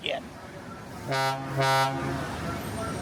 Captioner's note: horn honking